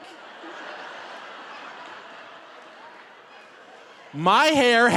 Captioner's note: audience laughing